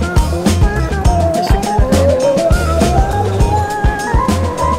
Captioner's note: Turkish